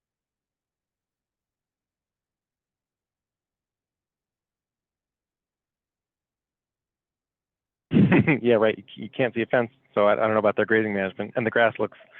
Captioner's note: chuckles